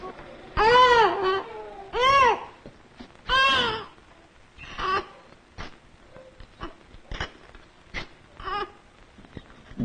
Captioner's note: baby cries